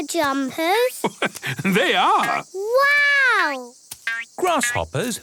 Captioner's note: laugh